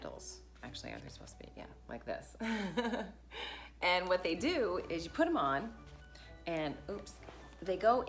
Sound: giggles

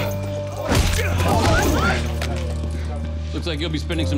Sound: people shout

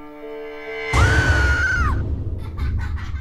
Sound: SOPHIE screams; children giggling

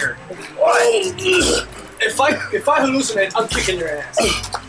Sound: Dwight heaving

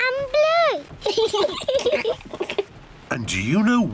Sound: both laugh

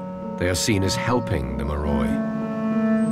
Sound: speaking in foreign language

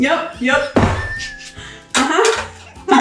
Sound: laughing

